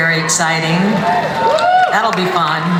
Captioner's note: audience cheering